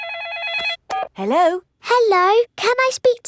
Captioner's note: phone rings